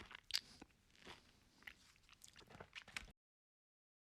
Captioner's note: chewing sound